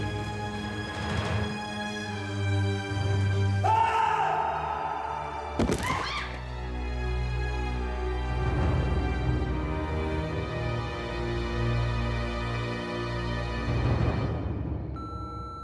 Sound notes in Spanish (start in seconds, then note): 5.5 Estruendo al caer